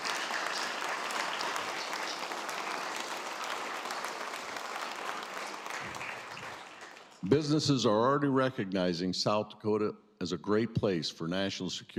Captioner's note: applause